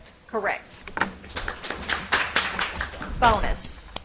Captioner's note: audience applauds